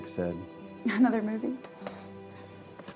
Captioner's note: chuckles